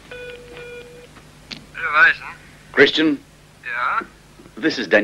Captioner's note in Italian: segnale di chiamata